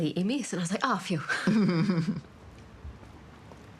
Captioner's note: chuckles